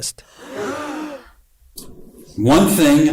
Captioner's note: gasp